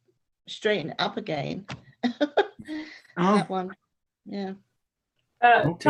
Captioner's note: laughing